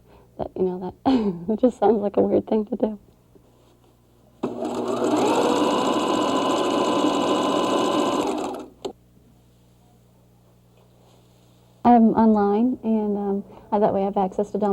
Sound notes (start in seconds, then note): 0.4 laughs; 4.4 sewing machine